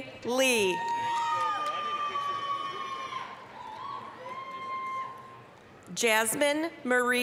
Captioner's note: applause, cheering